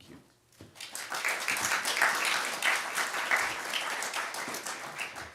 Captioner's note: applause